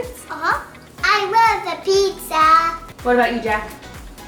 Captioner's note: happy Voice